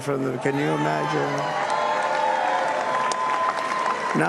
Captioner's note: cheers and applause